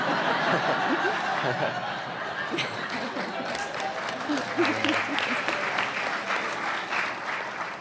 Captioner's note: laughing